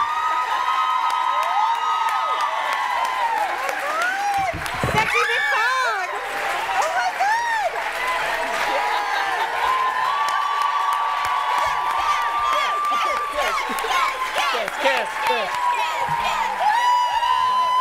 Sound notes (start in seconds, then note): 0.1 cheering and applause; 7.1 cheering and applause; 12.6 chanting